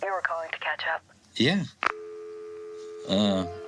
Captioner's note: click!